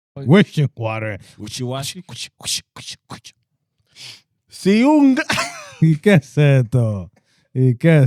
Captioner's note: speaking Spanish